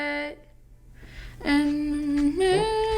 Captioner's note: humming